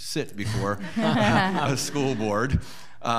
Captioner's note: audience laughing